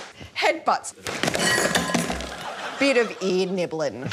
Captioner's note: clattering